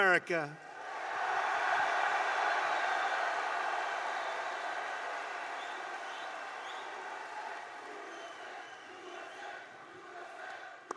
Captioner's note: applause